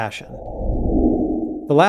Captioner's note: whooshing